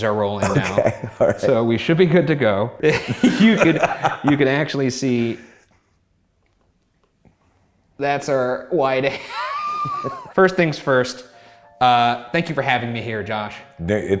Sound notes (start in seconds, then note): 9.1 laughs